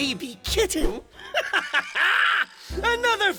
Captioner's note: Giovanni laughs